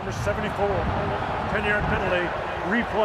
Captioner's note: booing